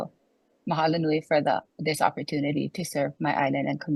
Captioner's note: speaks foreign language